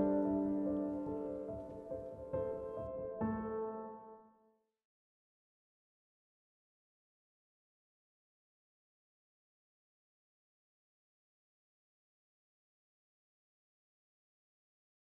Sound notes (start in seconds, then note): 4.3 silence